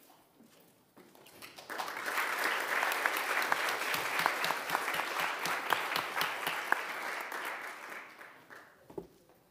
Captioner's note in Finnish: aplodit